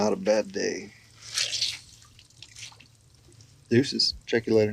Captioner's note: squeezing cloth